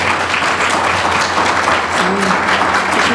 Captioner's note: applause